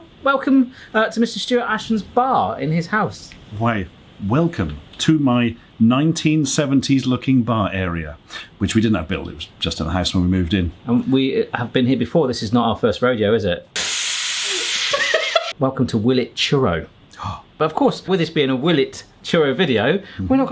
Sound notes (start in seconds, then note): 13.8 Soda Stream fizzes wildly; 14.8 laughs; 17.0 gasps